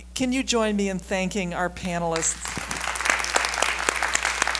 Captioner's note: applause